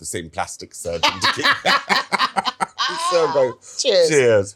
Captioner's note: Angela laughing; laughing